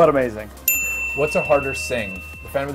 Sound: bell rings

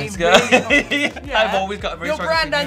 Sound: Tan laughing

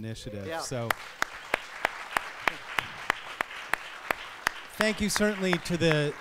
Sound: applause

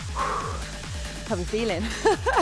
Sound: exhaling

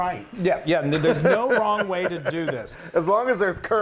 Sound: laugh

